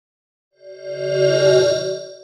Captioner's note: swoosh